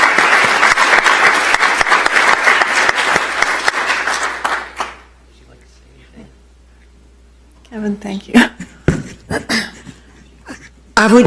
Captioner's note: applause